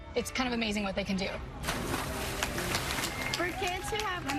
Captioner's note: water splashing